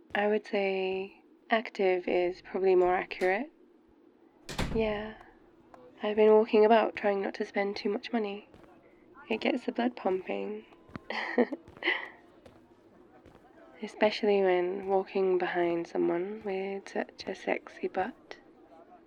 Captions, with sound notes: I would say... active is probably more accurate *door opens* *door closes* *outdoor ambience* yeah I've been walking about trying not to spend too much money it gets the blood pumping *laughs* especially when walking behind someone with such a sexy butt... *phonecall ends*